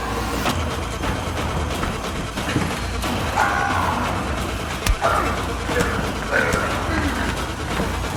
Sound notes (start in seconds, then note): 1.3 intense music; 3.6 Roy screams